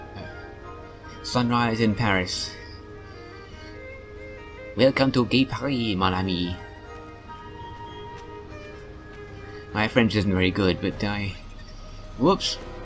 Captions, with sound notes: Sunrise in Paris! *French accent* Welcome to gay Paris, mon ami! My French isn't very good, but I... Whoops!